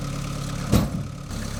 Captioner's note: engine rumbling; log crashing